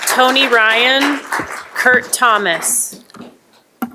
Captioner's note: applause